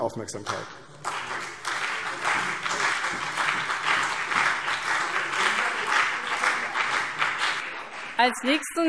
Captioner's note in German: Beifall CDU und BÜNDNIS 90/DIE GRÜNEN